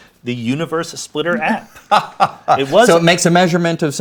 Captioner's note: Brian laughs